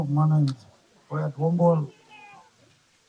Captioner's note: people chattering